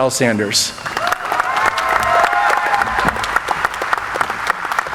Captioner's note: audience applauding